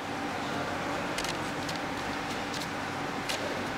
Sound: quiet machine whirring

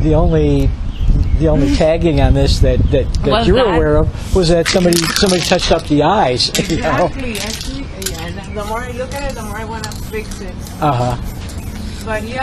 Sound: shaking spray paint can

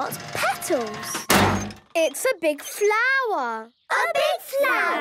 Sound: crane beeping

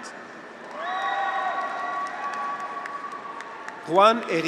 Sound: graduates cheer

